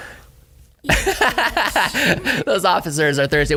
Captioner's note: laugh